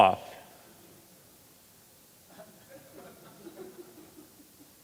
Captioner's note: audience members chuckling